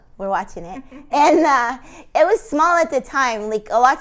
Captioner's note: laughing